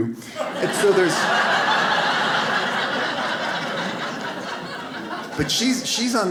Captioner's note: audience laughs